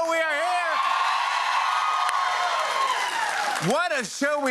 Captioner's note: cheers and applause